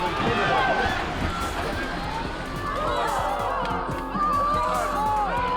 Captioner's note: people yelling